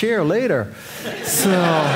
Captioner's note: audience laughing